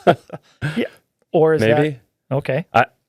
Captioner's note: laughing